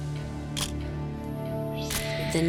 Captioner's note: camera shuttle click